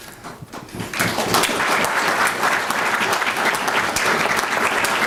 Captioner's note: applause